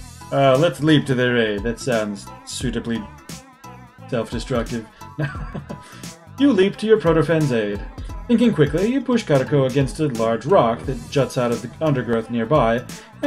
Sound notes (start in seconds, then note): 5.1 chuckles